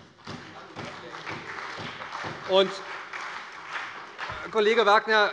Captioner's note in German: Beifall bei der SPD